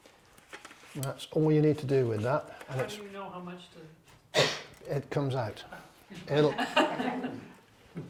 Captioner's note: laughter